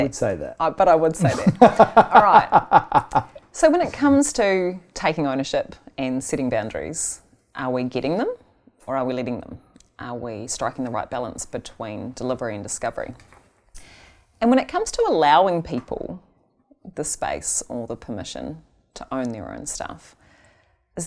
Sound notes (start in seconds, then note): 1.2 laughing